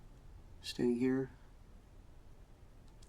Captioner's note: none